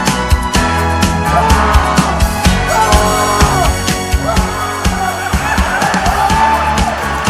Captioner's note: pained screams